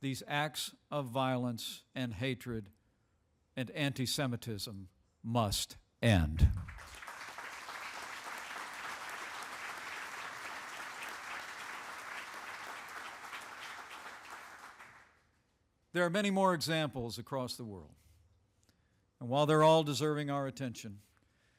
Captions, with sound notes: These acts of violence and hatred and anti-Semitism must end. (Applause) There are many more examples across the world. And while they're all deserving our attention,